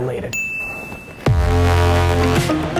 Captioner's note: dinging; upbeat music